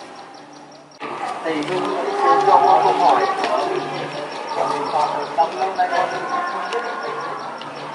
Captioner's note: sound of conversation